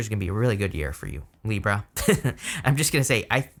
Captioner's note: laughs